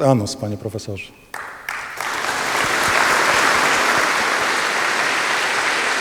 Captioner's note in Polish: Aplauz